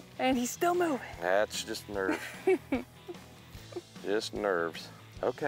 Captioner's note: laughing